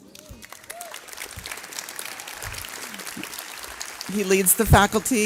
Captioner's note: audience clapping